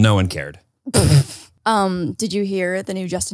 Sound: laughs

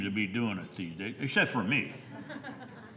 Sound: laughter

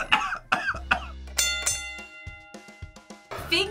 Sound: laughs; bell rings

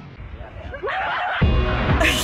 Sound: snickering; onlookers hooting; synthpop

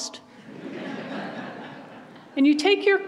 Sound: audience laughs

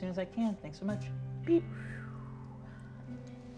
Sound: exhales softly; gentle instrumental music

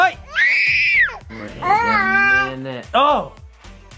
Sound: child screaming

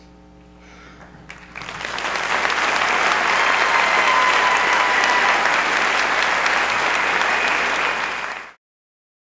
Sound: applause

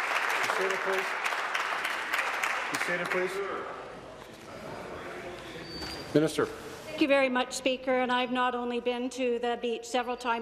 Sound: applause

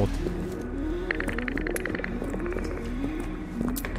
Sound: ticks clicking

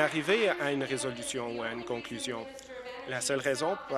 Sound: applause

